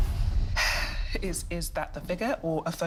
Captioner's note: sighs